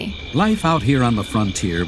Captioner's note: train noises